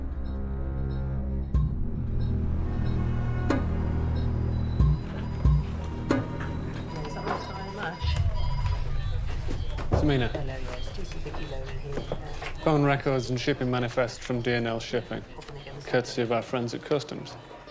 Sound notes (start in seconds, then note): 7.2 people chattering; 7.2 phones ringing